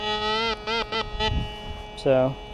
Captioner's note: detector beeps